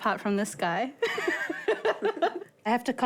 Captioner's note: laughing